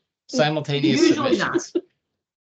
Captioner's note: laughing